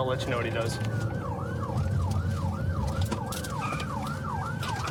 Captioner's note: siren wailing